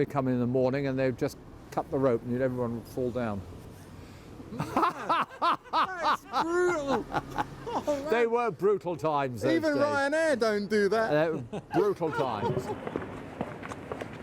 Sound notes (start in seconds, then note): 4.5 laugher